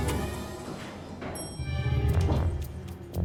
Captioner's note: elevator dings; dramatic music